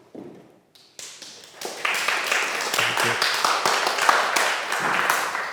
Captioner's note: audience applauds